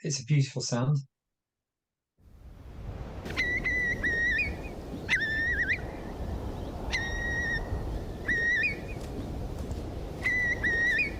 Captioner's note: Curlew call